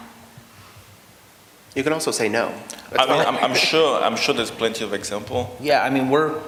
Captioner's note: laughter